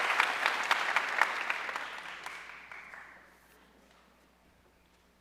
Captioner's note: audience cheering and applauding